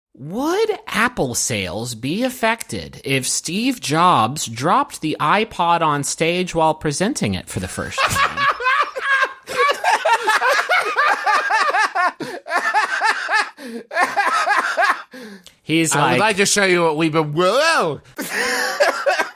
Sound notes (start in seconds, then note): 8.0 laughs hysterically; 10.1 also starts laughing hysterically; 10.1 laughs hysterically; 12.7 still laughing; 18.1 laughs